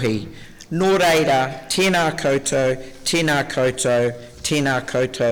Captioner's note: speaking Mori